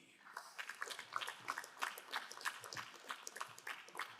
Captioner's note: crowd applauding